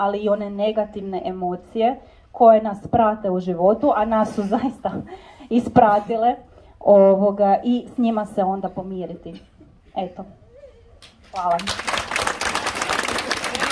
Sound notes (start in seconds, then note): 11.3 applause…